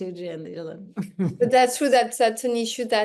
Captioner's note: laughs